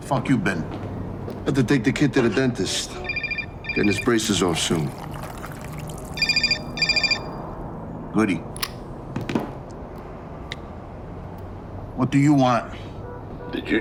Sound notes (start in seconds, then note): 6.1 phone ringing; 9.5 button clicking